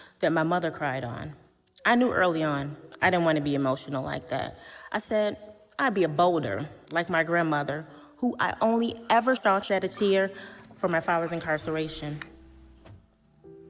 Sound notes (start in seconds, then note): none